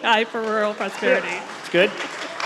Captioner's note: audience applauds